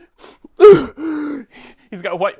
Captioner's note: Gerald moans